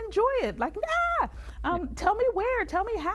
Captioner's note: screams